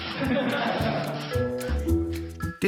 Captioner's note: laughs